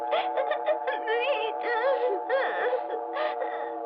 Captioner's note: crying